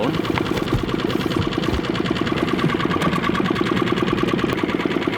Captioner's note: boat engine whirring